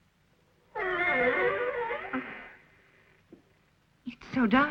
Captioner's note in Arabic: صرير الباب